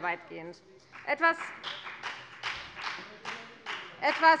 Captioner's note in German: Beifall bei der FDP